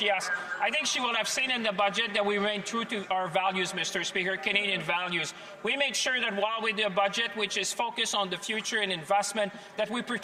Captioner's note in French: voix de l'interprète